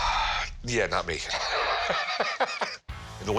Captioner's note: laughs